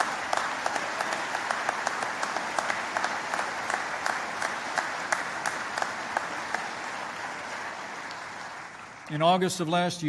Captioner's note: applause